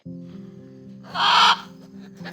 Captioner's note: parrot squawks